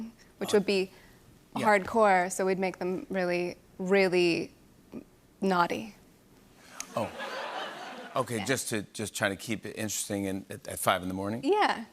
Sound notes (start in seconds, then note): 6.8 laughter